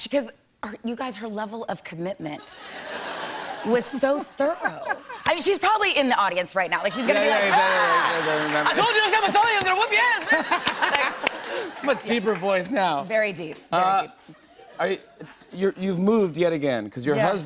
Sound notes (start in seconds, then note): 10.1 laughter